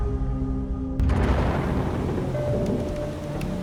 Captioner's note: thunder booms